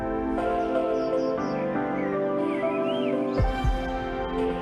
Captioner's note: birds chirping